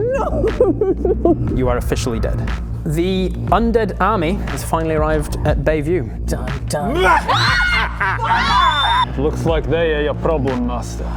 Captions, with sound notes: Nooooooo! You are officially dead The undead army has finally arrived at Bayview dun dun... BA!! *synchronised screaming* *creepy maniacal laughing* Looks like they are your problem, master